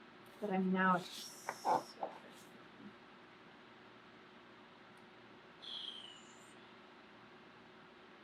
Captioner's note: laughs; blows air